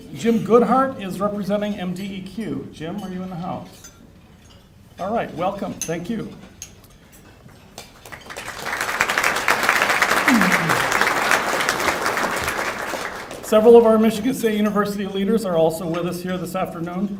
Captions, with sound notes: Jim Goodhart is representing MDEQ alright welcome thank you (applause) several of our Michigan State University leaders are also with us here this afternoon